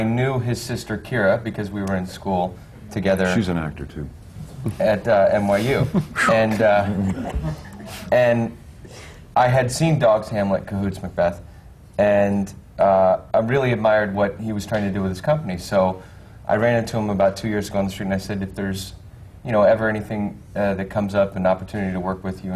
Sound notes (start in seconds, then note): 5.6 rueful laughter from the panel